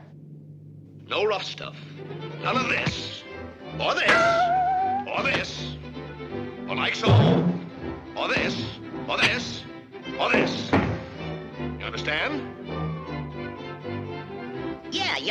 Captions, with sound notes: - No rough stuff. None of this. (elbow thuds) Or this. (foot thuds) Or this. (foot thuds) Or like so. (tail feather thuds) Or this, or this, or this. (feet thudding) You understand? (bright music)